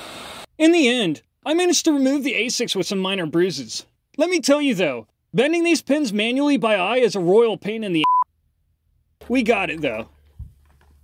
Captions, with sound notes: In the end I managed to remove the ASIC with some minor bruises. Let me tell you though - bending these pins manually by eye is a royal pain in the *BEEP*. We got it though.